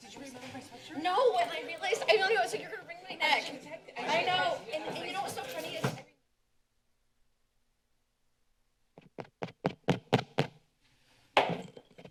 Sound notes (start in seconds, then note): 6.3 silence; 9.0 taps mic; 11.2 taps gavel